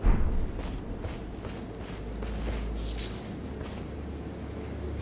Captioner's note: footsteps tapping